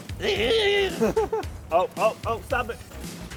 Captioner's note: laughing